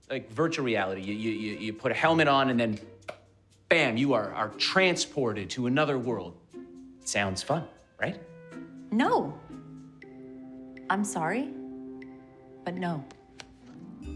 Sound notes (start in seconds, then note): none